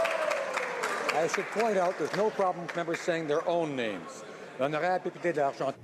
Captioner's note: some Applause